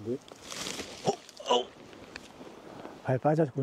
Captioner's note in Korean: 놀란 소리